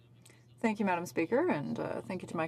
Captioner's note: speaking French